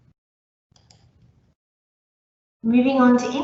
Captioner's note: mouse clicking